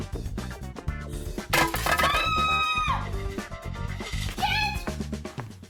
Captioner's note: bowl clattering; Trixie screaming